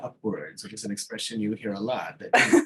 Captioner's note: laughing